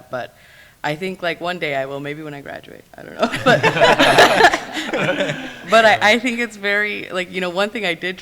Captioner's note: laughs